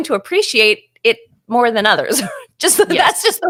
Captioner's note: chuckles